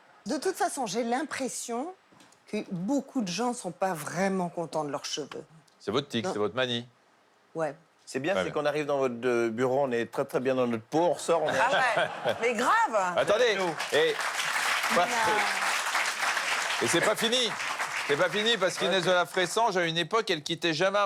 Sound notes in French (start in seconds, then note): 13.2 applaudissements